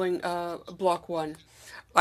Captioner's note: speaking FRENCH